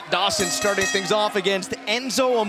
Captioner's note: bell ringing